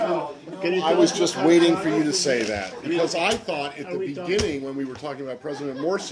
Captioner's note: laughter